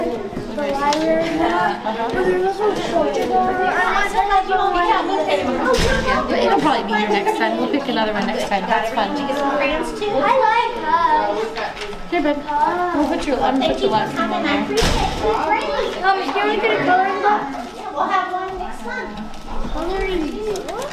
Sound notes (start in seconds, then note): 0.2 overlapping chatter; 10.8 overlapping chatter